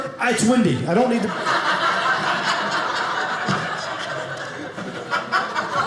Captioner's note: audience laughing